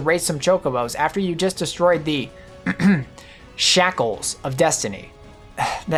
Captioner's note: ahem